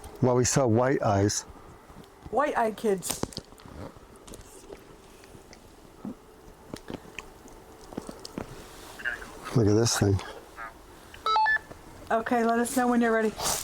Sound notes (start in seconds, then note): 6.1 rustles; 8.7 voice over radio